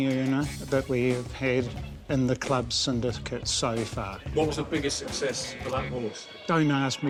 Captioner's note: laughs